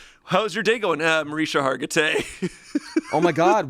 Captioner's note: laughs